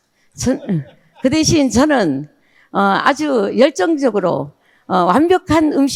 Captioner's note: speaking in foreign language